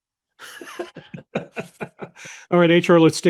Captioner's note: attendees laughing